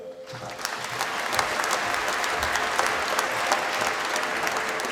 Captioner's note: applause